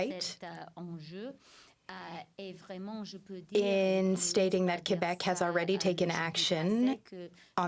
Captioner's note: speaking French